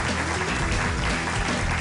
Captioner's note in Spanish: Aplausos